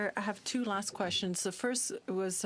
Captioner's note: speaking French